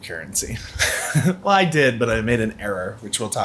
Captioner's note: laughs